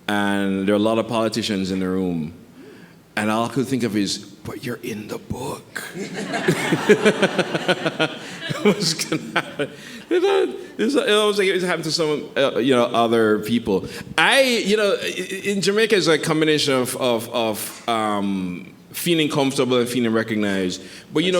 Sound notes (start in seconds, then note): 5.8 laughs; 5.8 audience laughing